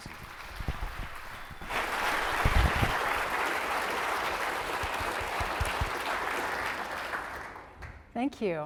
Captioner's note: applause